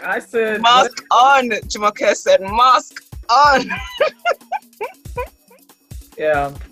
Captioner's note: laughs